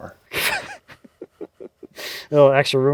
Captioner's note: laughs